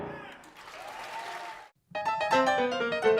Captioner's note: audience cheering